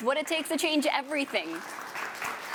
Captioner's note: applause